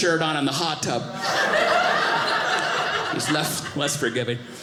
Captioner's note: audience laughing